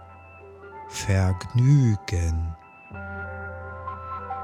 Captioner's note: german